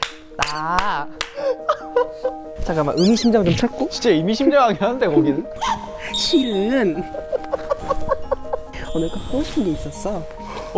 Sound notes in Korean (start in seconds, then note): 5.4 뒤적